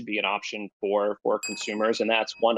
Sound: bell dings

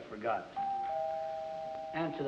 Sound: doorbell rings

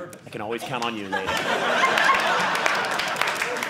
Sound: audience laughing

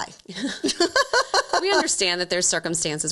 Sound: both laughing

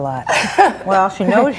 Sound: laughs

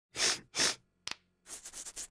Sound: sniffing

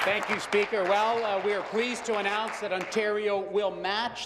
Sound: applause

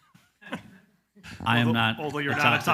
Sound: all laugh loudly

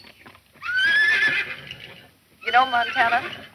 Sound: horse neighs

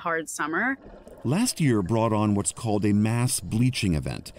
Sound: voice-over

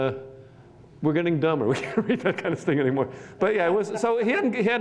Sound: laughs

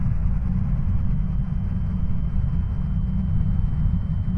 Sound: droning and ringing noises

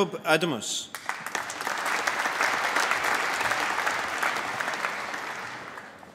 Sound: applause

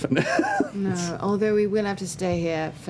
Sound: laughter

